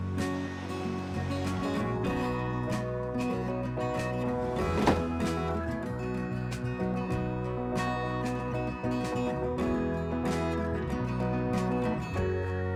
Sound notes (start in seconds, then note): 4.3 bucket thuds on shelf